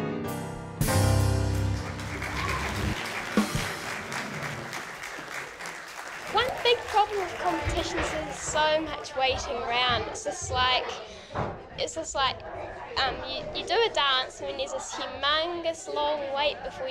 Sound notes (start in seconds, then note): 1.5 crowd applauds